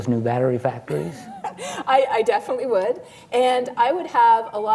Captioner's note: laughs